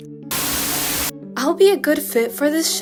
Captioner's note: Static